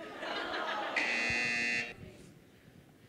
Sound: laughter; buzzer

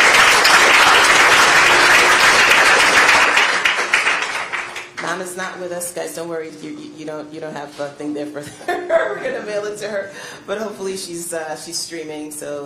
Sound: applause

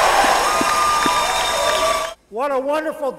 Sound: cheering

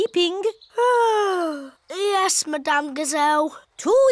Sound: yawns

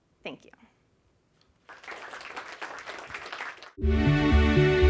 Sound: applause

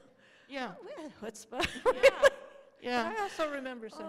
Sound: laughter

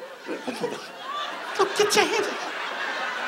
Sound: audience laughs

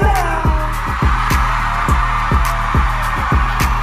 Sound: cheering

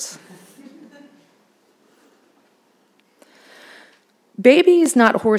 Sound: audience laughing

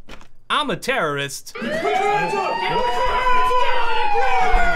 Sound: siren goes off

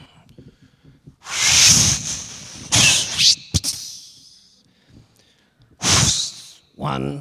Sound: making whistling noises

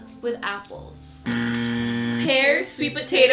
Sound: buzzer

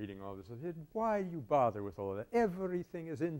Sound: Italian accent

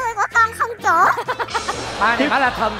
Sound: laughing

